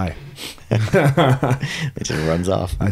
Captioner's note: laughing